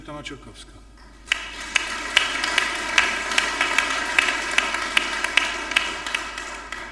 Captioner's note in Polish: oklaski